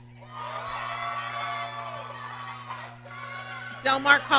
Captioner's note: applause